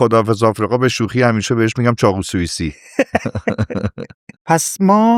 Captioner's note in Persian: خنده